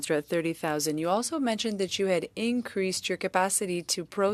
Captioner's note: speaking French